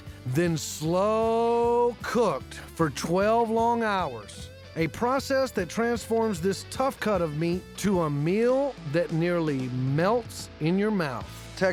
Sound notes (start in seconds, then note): none